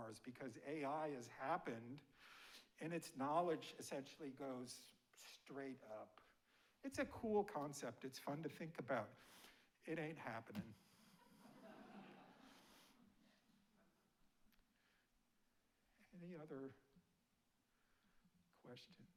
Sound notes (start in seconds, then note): 11.2 audience laughing